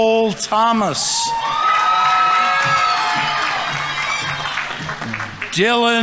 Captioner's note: audience members cheering; audience applauding